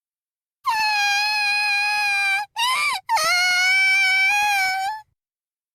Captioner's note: silence; sobbing